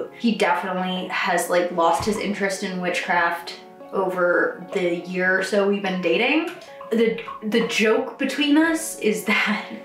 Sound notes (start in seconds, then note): 6.8 dog lapping water